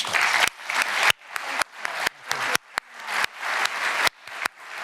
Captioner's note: applause